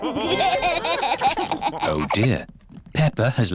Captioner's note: laughter